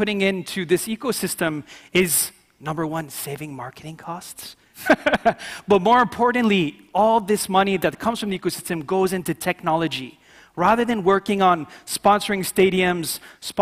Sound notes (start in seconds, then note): 4.7 laughing